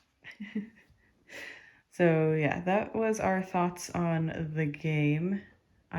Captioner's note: laughs